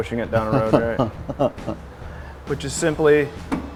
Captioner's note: laughing